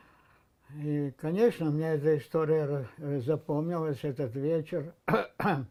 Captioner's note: coughing